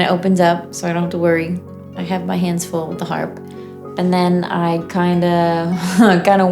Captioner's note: laughter